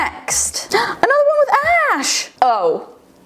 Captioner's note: gasps